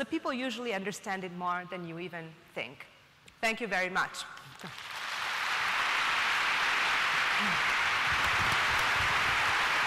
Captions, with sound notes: usually understand it more than you even think. Thank you very much. (applause)